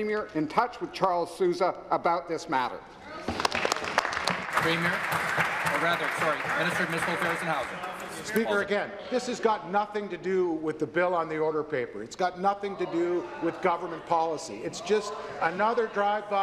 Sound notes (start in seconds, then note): 5.8 applause